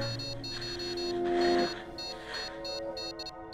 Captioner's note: beeping faster